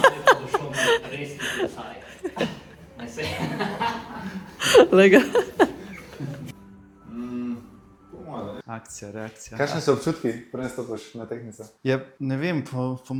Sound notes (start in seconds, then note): 4.9 laughs